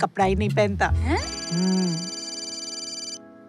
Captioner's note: Cell phone ringing